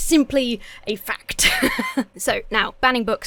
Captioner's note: laughs